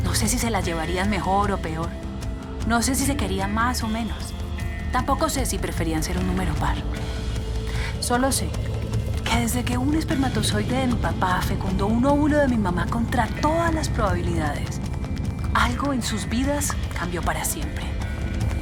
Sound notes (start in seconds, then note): none